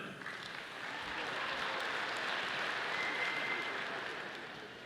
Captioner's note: audience applauding